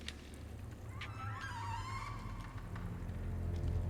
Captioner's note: door creaks